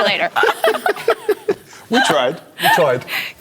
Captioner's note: laughter